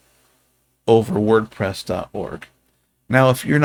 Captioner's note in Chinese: 英语